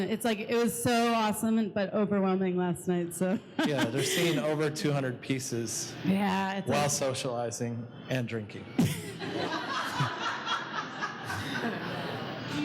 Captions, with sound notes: it's like it's so awesome, but overwhelming last night. - Yeah, we're seeing over 200 pieces, while socializing and drinking. (laughing)